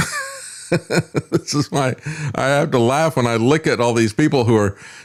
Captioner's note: laughs